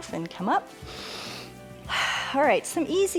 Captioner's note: inhales and exhales